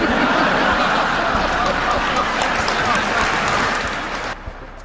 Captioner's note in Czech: smích publika